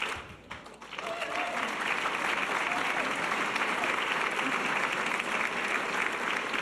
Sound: audience cheers and applause

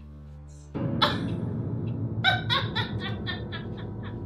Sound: Fiona laughing

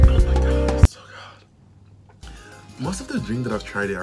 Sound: whispers

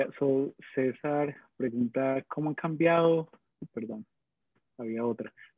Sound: speaking in foreign language

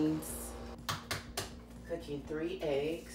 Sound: palm raps

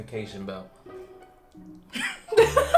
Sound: laughs

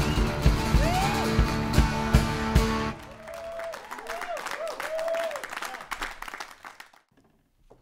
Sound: applause

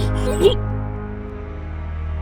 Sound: falter

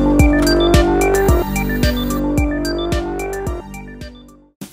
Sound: TV static

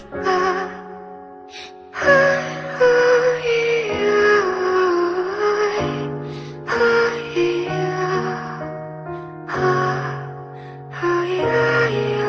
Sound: humming

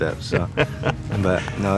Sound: laughing

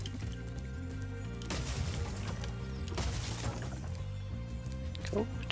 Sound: chest cracks

